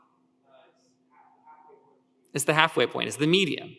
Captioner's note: speaker speaks faintly